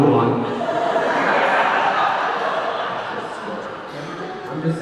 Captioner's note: audience laughing